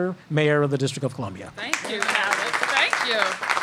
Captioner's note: applause